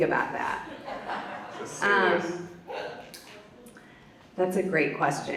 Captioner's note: audience laughs